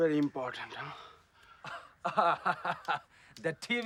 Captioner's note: laughs